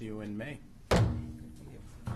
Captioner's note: gavel